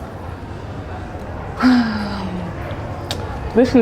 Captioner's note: sighs